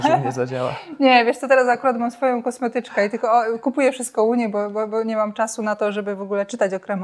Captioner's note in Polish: śmiech